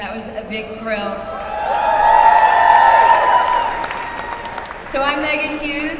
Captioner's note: applause